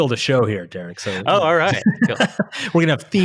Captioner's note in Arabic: يضحك